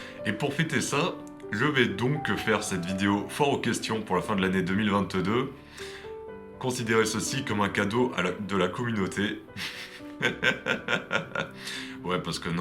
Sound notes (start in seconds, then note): 9.6 laughs